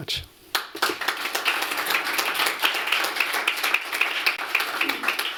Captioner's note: applause